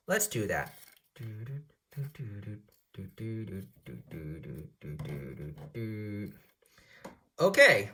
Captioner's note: humming a spinning song